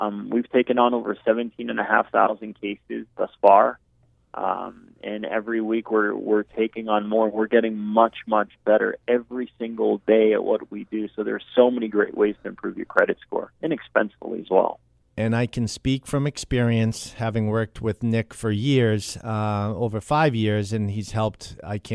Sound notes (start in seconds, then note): 15.4 voiceover